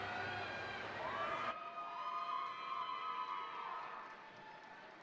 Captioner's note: audience cheering